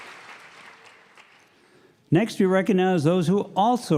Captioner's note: applause